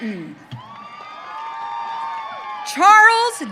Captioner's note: audience cheering